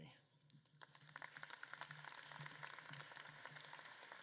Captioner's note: audience claps